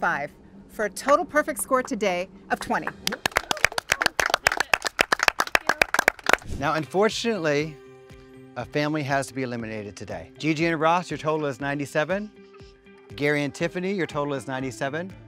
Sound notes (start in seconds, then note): 2.8 all applauding